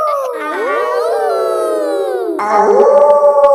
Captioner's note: kids howling; howling; wolf howling loudly